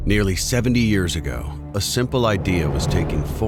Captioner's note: voiceover